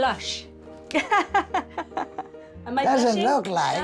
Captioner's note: chuckles